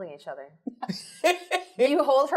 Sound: laughs

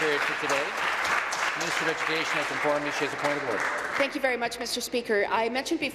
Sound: applause

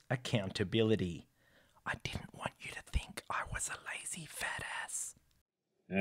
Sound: whispers

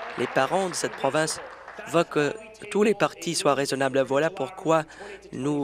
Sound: applause

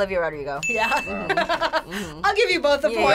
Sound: audio dings; laughs

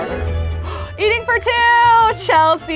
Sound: gasps

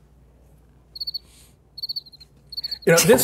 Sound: crickets chirp

